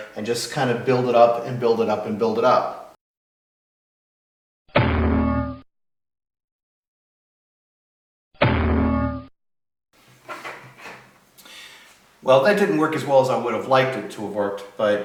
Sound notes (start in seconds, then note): 4.7 booinggg!; 8.4 booinggg!